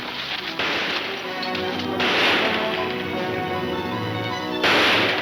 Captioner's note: gunshots banging